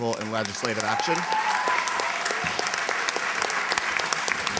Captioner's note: applause